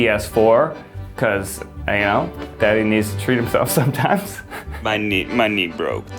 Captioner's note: laughs